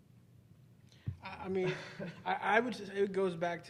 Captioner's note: laughing